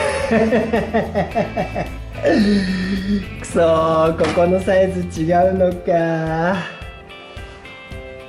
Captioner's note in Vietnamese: cười lớn